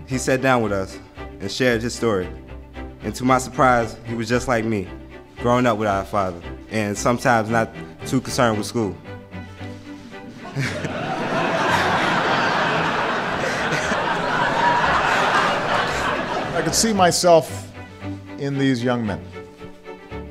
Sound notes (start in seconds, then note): 10.0 crowd laughs